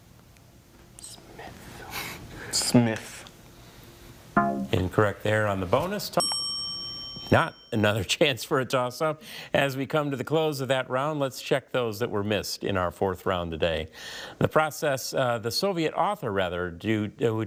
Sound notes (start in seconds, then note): 4.3 tone clunks; 6.2 bell dings